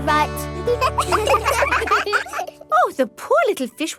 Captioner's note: children laugh